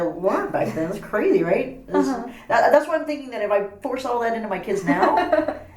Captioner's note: laughs